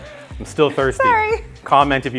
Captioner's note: laughing